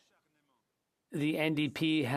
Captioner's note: speaking French